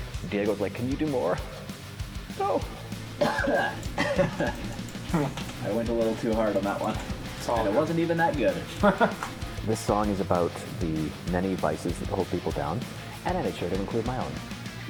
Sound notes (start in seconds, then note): 2.2 coughs; 3.0 laughs; 9.2 laughs